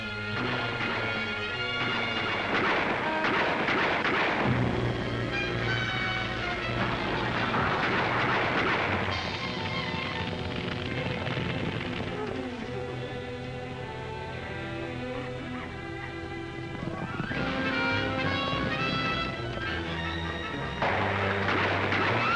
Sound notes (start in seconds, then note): 0.0 dramatic music; 0.3 gunshots; 6.8 crash; 7.9 gunshots; 9.5 fire crackling; 11.9 woman whimpering; 13.5 dramatic music; 16.7 hooves pounding; 17.3 dramatic music; 20.7 gunshots